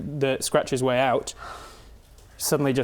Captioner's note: gasp